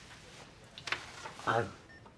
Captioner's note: the sound of papers being moved